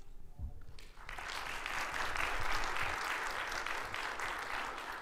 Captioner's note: audience applauds